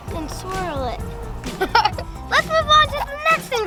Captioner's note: laughter